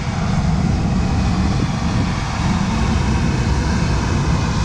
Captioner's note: airplane engine rumbles